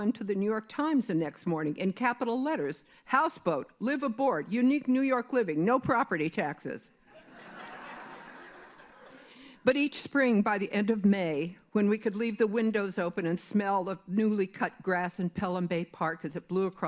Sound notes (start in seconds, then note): 7.1 laughter